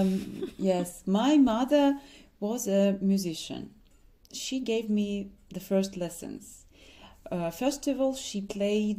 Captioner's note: laughs